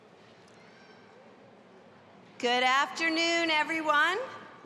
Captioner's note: none